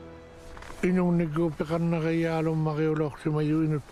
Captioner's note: speaking Inuit